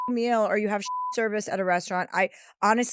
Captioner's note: beep